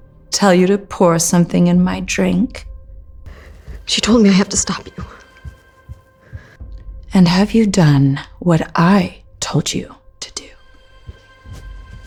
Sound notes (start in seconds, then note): none